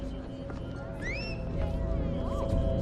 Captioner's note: whistles loudly